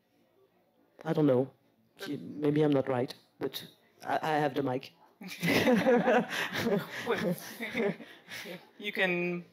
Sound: laughs

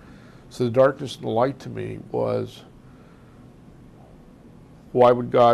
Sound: pauses for 3 seconds

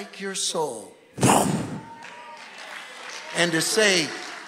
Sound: imitates explosion

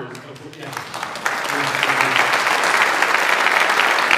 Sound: audience applauds

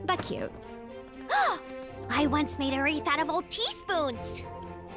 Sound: gasps

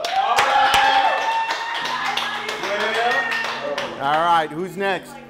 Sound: competitors cheering

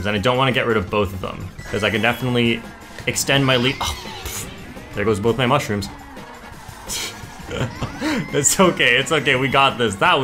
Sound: laughs

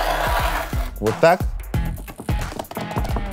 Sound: light tapping

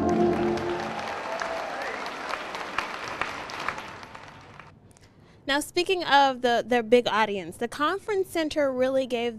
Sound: applause

